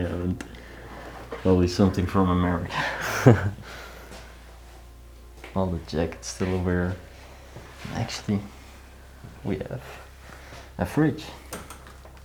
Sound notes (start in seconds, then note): 2.6 laughs